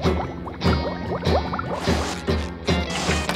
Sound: bubbles; sand door opens and closes

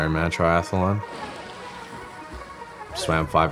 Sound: water splashing

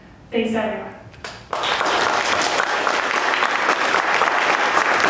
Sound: applause

